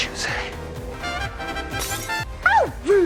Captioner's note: glass breaks